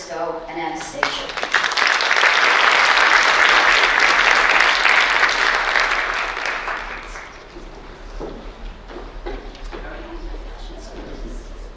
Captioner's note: applause